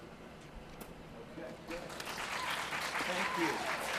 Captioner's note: applause